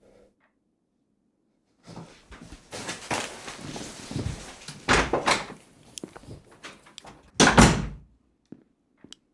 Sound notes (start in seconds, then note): 3.5 door slamming; 7.4 door closing